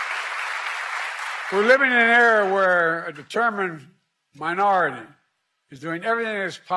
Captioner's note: applause